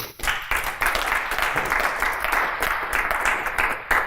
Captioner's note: applause